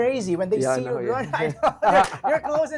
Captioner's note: laughs